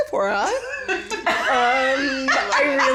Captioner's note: all laugh